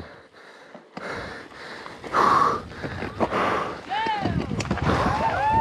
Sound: breathing heavily; crowd cheering

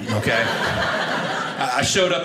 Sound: audience laughing

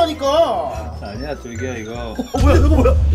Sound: bee..beep

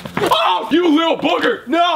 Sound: exclaims

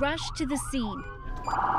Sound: sirens

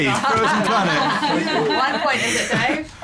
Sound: laughter

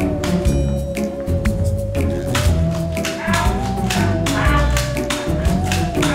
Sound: foam dart sounds

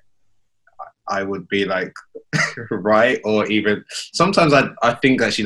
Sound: laughs

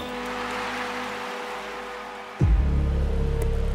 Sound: applause

